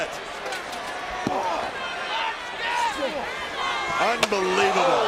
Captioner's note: crowd clambering